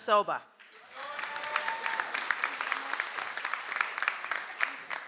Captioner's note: audience applauds